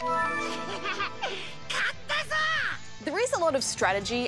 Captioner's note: laughs, speaks japanese